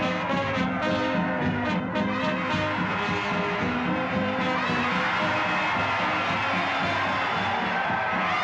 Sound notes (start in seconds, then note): 4.9 crowd cheering